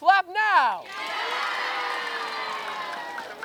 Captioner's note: cheering